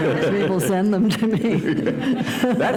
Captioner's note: laughter